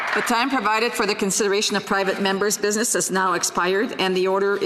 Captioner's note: applause